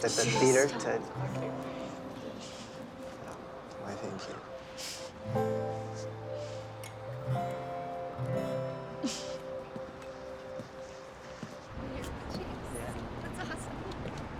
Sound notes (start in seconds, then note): 9.0 Bea chuckles